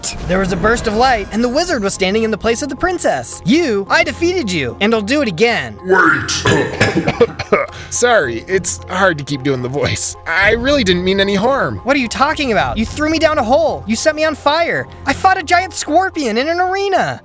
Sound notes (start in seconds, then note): 5.8 cough cough